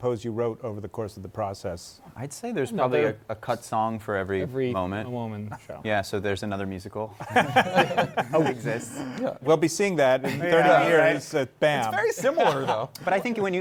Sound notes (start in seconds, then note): 7.2 laughter